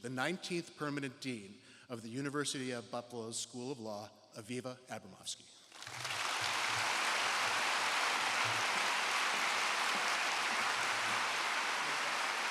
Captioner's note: applause